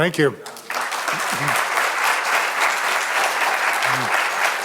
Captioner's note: audience applauding